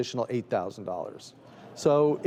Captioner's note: crowd gasps